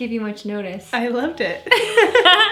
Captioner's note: laughs